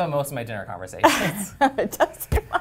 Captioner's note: laugh